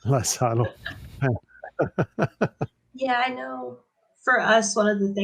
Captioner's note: chuckles